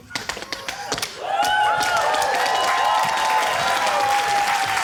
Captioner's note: cheering, applause